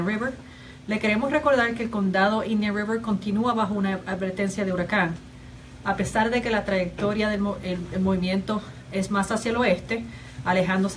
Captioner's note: speaking spanish